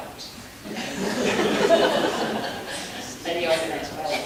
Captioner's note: audience laughing